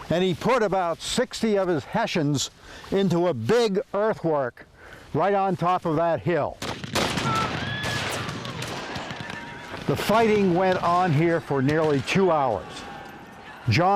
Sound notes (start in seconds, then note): 6.6 guns firing; 7.2 soldiers shouting; 9.4 horses neighing